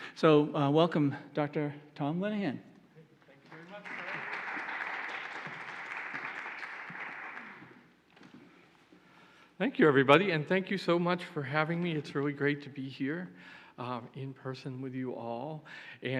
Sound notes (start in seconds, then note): 3.3 applauding